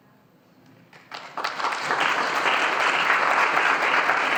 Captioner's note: audience applauding